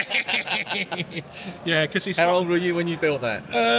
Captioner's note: laughs